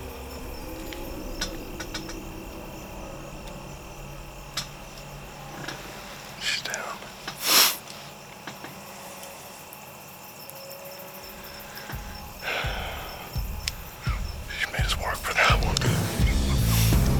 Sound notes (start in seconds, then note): 7.3 whispering; 11.7 whispering